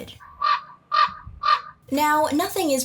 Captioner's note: SFX: Raven calls